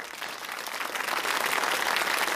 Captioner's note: applause